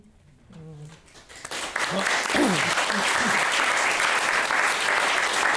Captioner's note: audience applauding